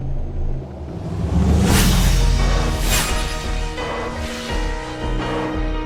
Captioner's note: energy whooshing; dramatic music plays